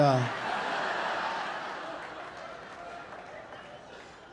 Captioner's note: audience laughing